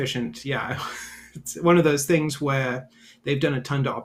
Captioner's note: chuckles